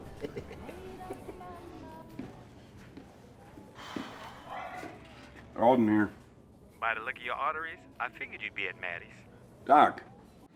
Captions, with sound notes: [BOTH SNICKERING] [SIGHS] ALDEN HERE. DOC: BY THE LOOK OF YOUR ARTERIES, I FIGURED YOU'D BE AT MADDIE'S. DOC!